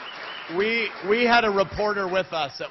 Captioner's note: applause